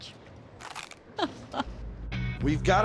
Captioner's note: crunch